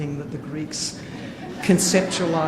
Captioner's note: audience laughing